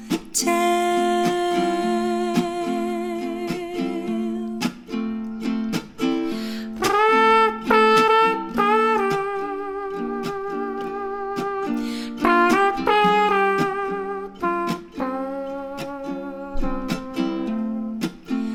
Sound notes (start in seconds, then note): 5.8 deploys the secret weapon of mouth trumpet noises